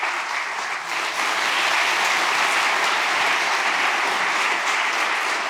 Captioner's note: audience applauding